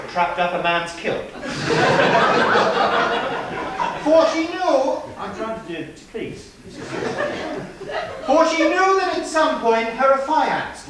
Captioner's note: laughter